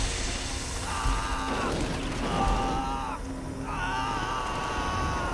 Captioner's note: screaming